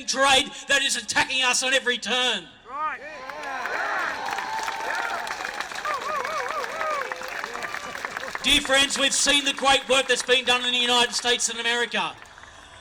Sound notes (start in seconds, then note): 3.1 crowd applauds